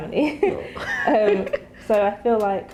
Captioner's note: laughter